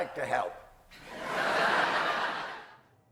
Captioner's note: laughter